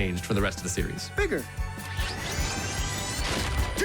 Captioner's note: pulsing